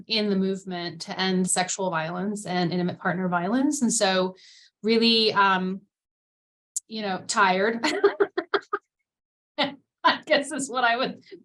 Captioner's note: chuckle